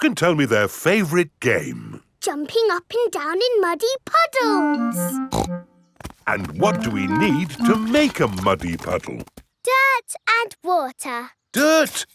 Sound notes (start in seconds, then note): 5.3 snorts